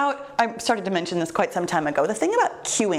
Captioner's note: none